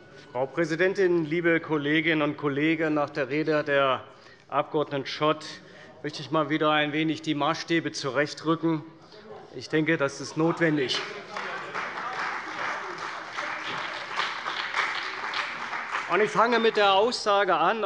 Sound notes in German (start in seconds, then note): 10.7 Beifall bei der CDU und dem BÜNDNIS 90/DIE GRÜNEN